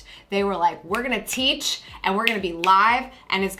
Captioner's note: snaps fingers